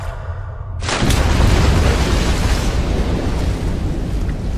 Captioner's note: water splashing